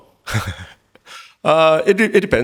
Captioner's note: Min laughing